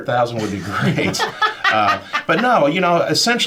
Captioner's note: panelists laughing